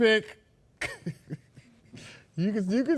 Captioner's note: laughs softly